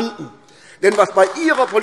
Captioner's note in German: Beifall AfD